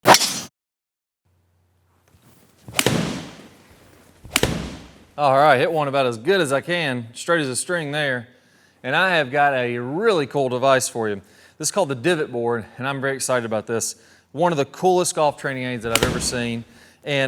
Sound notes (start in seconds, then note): 0.1 sharp bang; 2.6 loud thuds